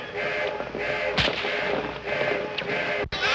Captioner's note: whip crack; shouting continues